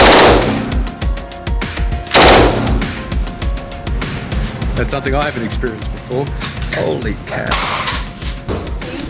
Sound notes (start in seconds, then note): 0.2 gun firing